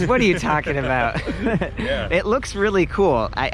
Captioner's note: both laugh